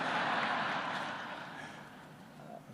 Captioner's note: laughter